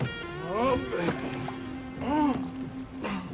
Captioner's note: groans